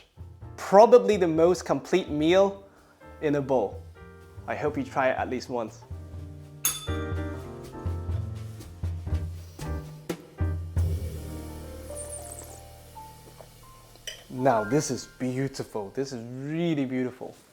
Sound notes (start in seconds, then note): 6.6 bell rings; 11.9 slurps